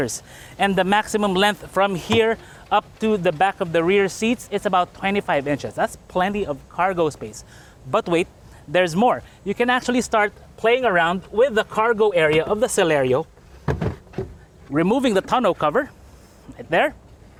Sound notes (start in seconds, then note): 13.6 thud